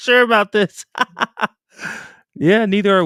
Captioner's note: laughter